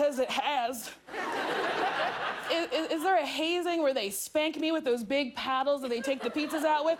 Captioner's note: laughter